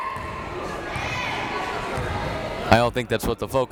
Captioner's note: crowd members shouting